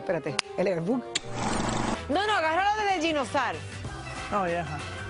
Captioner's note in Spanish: hablan en inglés